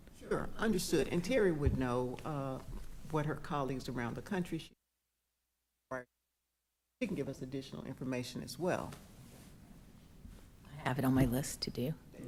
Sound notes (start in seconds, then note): 5.6 audio cuts out